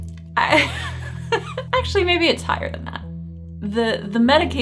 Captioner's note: laughing